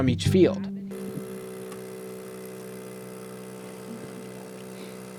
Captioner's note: machine whirring